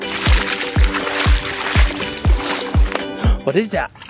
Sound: water splashing; gasp

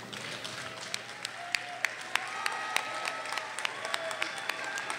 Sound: audience cheers and applauds

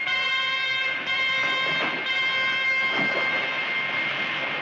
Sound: water splashing

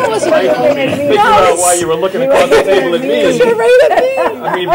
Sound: laughter

